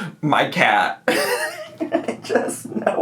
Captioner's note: laughing